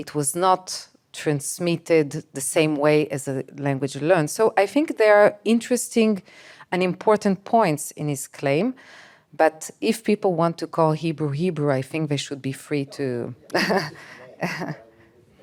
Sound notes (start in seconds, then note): 13.5 laughing